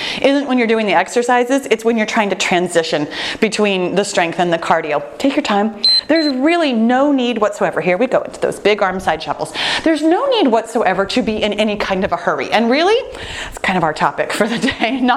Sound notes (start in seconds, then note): 5.8 timer beeping